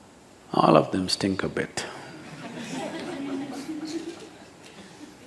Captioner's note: laughter